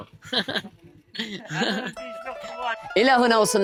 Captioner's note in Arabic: ضحك